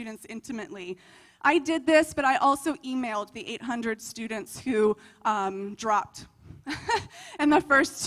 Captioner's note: laughter